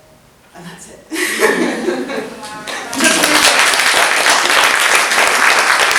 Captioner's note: clapping from audience